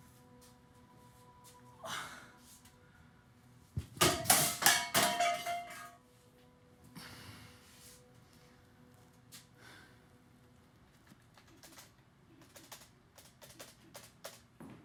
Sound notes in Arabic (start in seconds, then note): 1.8 تنهدات; 4.0 قعقعة; 11.3 نقر مفاتيح لوحة المفاتيح